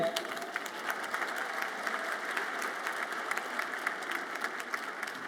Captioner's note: audience applauds